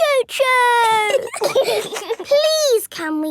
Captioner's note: giggling